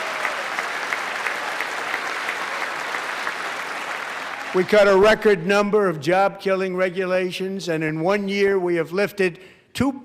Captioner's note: applause